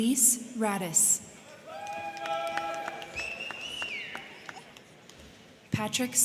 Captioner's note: crowd cheering; crowd clapping